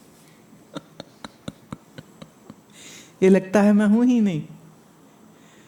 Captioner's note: giggles